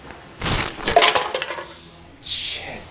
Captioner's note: trash bag tearing